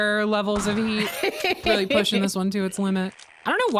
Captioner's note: laughs